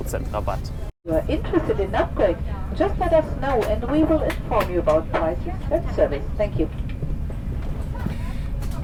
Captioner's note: cabin announcement